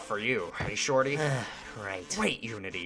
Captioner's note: sighs